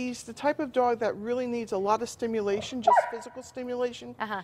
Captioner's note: dog barking